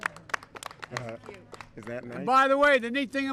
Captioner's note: applause